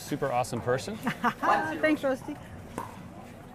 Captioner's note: laughs